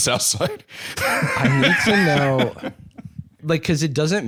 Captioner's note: laughs